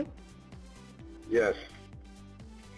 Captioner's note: male Voice